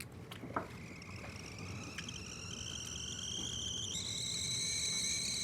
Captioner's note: kettle whistling